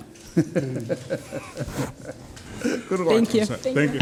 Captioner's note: laughs